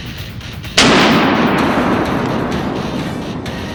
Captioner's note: gunshot